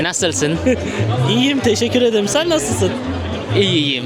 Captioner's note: Turkish; Turkish